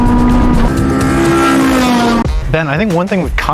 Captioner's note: engine roaring